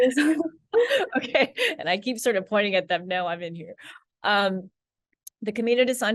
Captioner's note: laughs